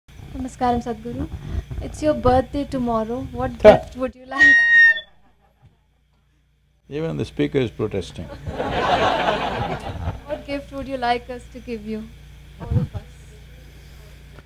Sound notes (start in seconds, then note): 8.2 laughter; 8.2 laughs